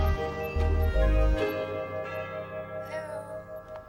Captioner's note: doorbell rings